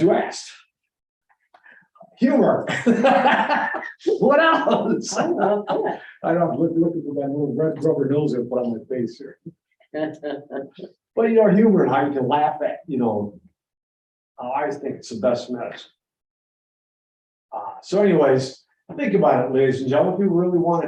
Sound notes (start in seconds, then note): 2.6 laughs